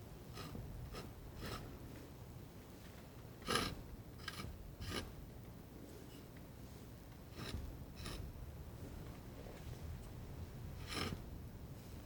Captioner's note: scratching